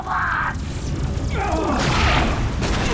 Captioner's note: groans